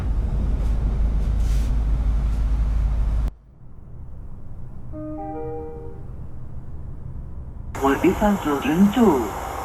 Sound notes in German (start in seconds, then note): 0.0 Zuginnengeräusch